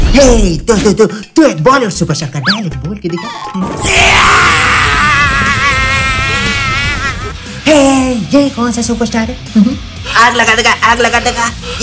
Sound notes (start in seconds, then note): 3.5 hmmm